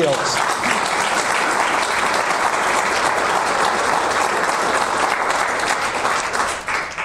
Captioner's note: audience applause